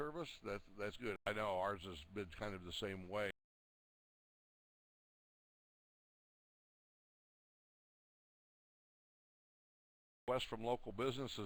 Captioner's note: audio drops